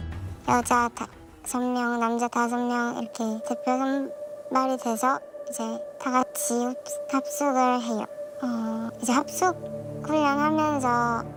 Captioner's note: voiceover